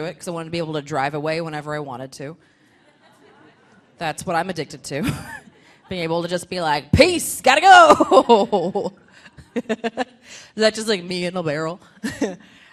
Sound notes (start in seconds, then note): 2.8 audience laughing; 8.1 laughs